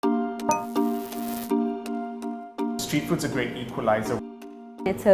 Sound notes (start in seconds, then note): 0.5 upbeat digital music; 0.5 digital screen buzzing